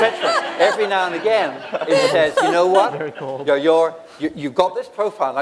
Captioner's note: laughter